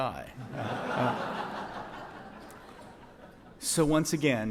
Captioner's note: audience laughs